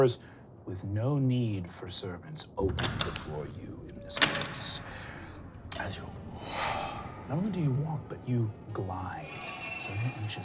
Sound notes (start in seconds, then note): 6.4 powerful exhale